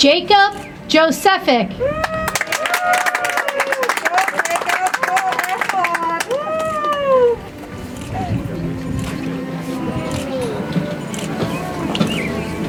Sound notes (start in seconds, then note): 2.0 audience applauds; 6.4 soft music